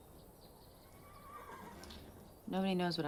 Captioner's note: horse whinnies